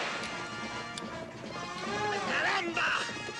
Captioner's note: hammer clicks